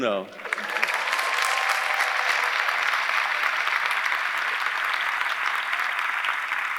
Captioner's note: audience applauding; audience cheering